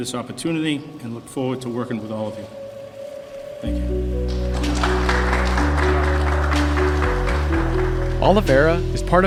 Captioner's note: fade down on applause